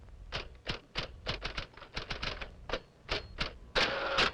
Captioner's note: typewriter clacking